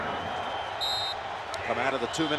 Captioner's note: whistle blows